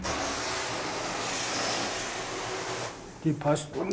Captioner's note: hiss